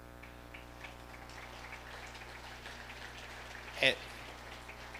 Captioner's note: audience applauding